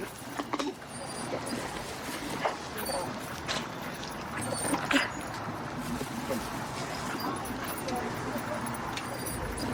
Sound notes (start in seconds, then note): 2.3 dog whining